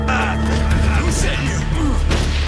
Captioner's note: Човек възкликва в агония